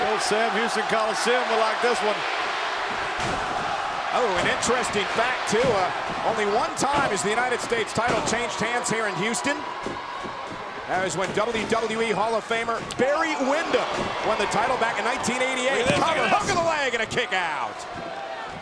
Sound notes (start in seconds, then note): 2.8 blow thudding; 15.4 hands thudding